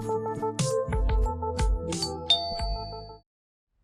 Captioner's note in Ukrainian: дзвінок у двері